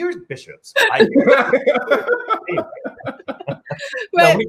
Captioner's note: laughs